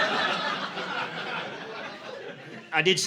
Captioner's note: audience laughing